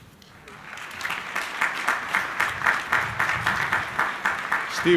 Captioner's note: crowd applauding